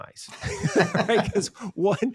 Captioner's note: both laughing